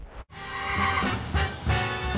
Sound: tires screeching

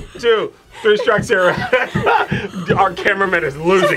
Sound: laughs

